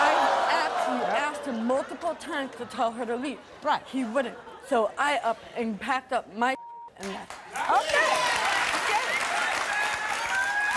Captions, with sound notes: I actually asked him multiple times to tell her to leave. He wouldn't. So, I up and packed up my (beep) and left. - Okay, okay.